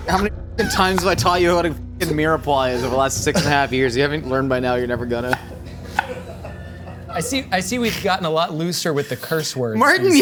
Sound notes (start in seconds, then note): 4.8 crew laughing; 5.2 knife thudding